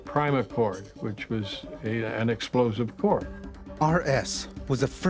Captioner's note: voiceover